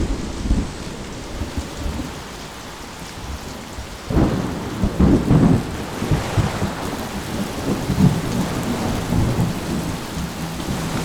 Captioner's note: fading storm